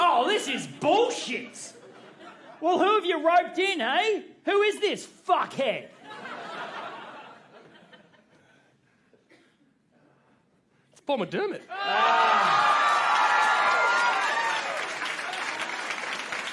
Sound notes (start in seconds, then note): 6.0 silence, interrupted by quiet audience laughter; 11.7 audience cheering; 14.2 clapping